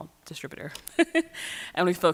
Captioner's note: chuckles